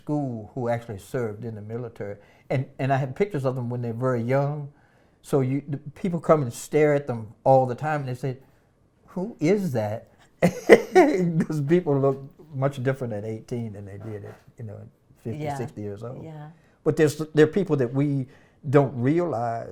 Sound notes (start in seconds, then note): 10.2 laughs